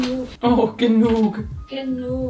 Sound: speaking in foreign language

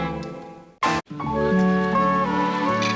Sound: cutlery scrapes

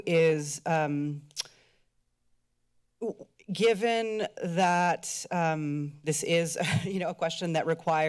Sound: laughter

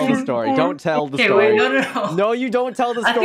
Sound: laughs; laughs

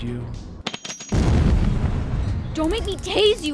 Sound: tinkles; explodes

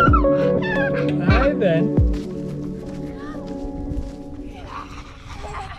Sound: upbeat electronic music; whistling; both laughing

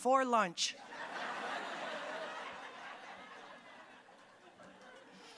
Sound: audience laughing

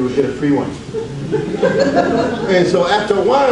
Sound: audience laughs

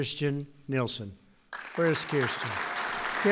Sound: applause

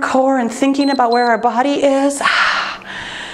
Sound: timer beeps

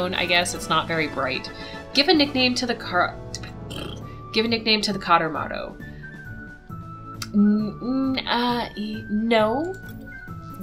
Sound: raspberry noise

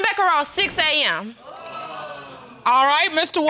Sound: audience exclaims

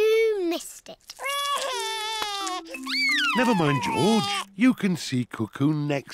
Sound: sobs

